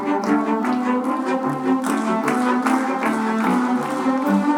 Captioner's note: audience clapping